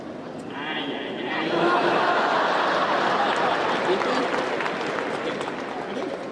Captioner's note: audience laughing